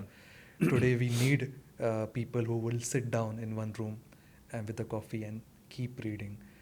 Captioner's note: clears throat